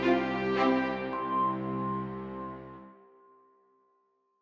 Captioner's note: chime